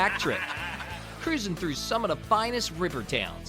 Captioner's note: laughter